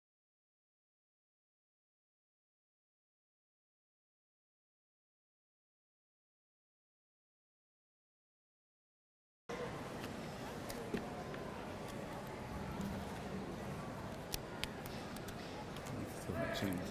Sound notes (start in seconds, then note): 10.1 hushed chattering